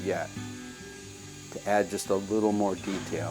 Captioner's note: tool whirring